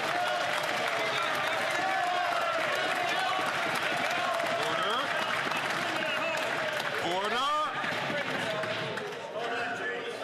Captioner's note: some Applause